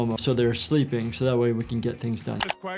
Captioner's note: none